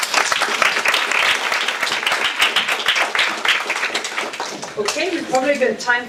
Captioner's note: audience applause